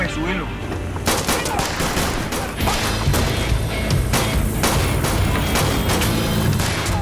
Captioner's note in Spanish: Disparos